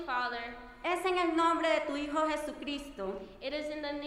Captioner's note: speaking in foreign language